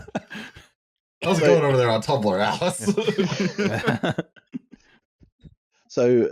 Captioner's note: laughter; laughter